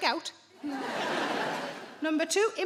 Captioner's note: audience laughing